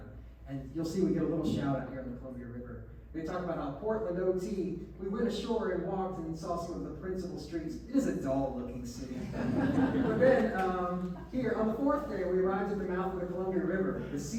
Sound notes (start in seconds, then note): 9.1 laughs